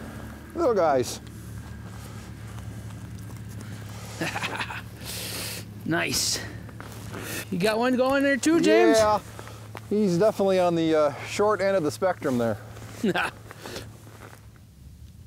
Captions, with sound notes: Little guys. (laughs) - Nice. You got one going there too, James? - Yeah. He's definitely on the short end of the spectrum, there. (laughs)